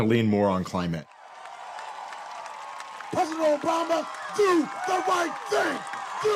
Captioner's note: crowd cheering and applauding